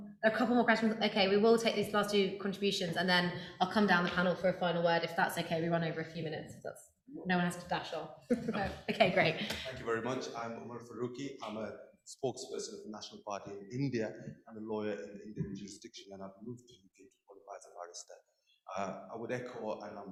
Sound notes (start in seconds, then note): 13.1 voice trails off